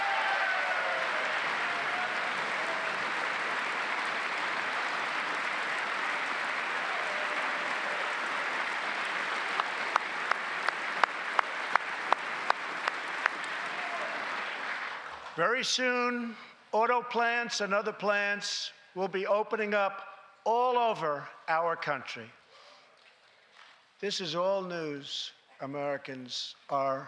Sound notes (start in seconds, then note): 5.3 cheers and applause; 14.0 applause